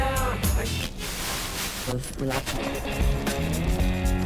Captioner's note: radio channels cycling